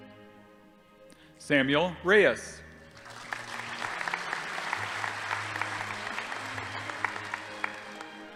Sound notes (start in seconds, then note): 2.9 audience applauding